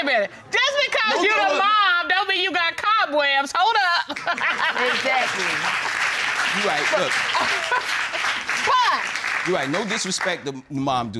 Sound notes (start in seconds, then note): 4.2 audience applauding